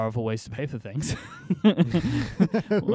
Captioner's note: laughter